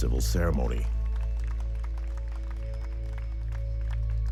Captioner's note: people applauding